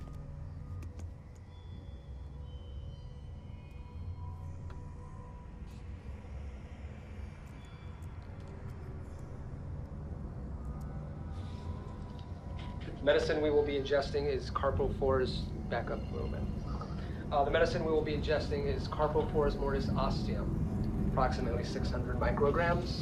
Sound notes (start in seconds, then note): 8.4 keyboard keys clicking